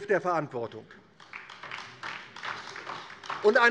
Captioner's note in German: Beifall DIE LINKE